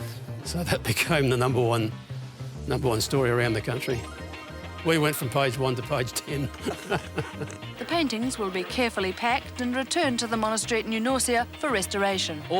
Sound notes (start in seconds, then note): 6.7 laughs